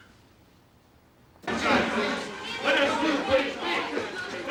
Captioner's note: clamoring